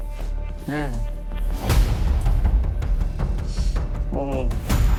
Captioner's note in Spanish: Quejidos